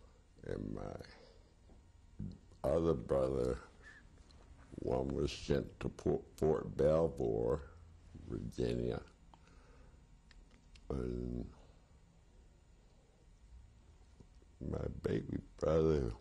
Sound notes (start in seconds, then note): 10.8 pauses for 3 seconds